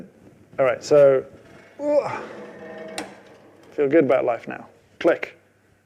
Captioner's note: groans